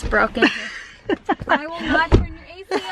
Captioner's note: laughs